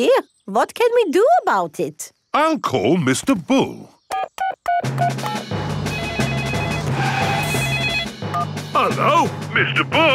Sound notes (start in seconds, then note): 4.1 beeping; 5.8 phone ringing